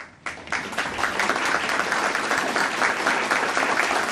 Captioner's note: audience applauding